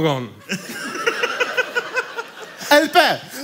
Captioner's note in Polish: śmiech